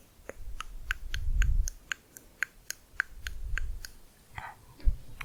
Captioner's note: higher pitched clicking